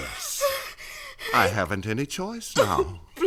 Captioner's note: breathing heavily